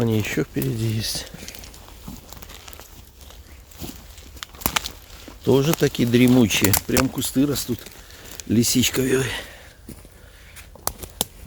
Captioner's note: bush crackling